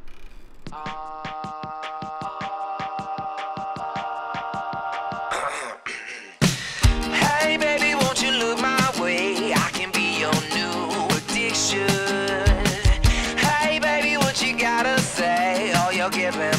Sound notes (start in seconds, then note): 5.4 clearing throat